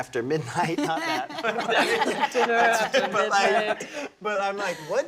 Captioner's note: laughter